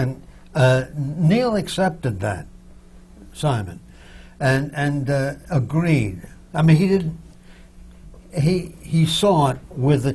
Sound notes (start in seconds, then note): none